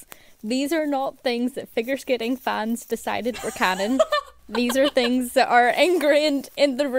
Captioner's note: hosts laugh